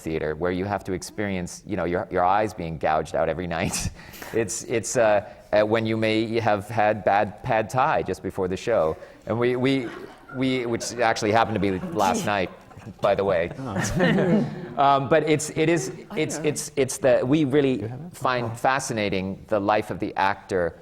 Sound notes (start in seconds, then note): 4.7 laughs; 9.6 laughter